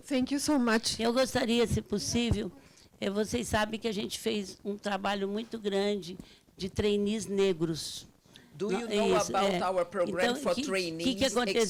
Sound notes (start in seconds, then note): 1.3 speaking Portuguese